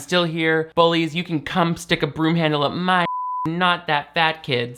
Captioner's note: beep